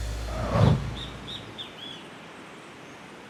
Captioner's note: graphics whooshing; water roaring